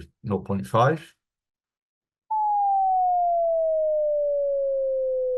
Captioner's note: tone slowly decreases